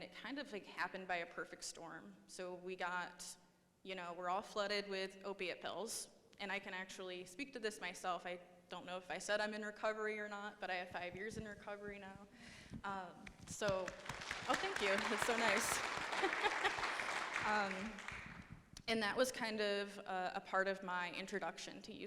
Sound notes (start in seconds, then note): 13.3 audience applauding; 17.1 laughs